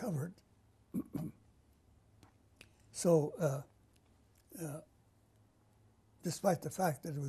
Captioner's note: pauses for 3 seconds